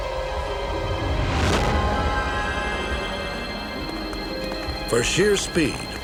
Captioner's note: whooshes